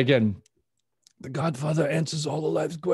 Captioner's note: imitating godfather